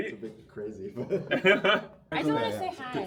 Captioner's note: laughing